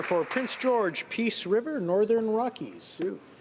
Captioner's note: applause